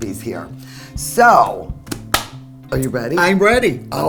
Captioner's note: claps